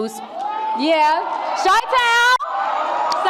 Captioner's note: cheers and whoops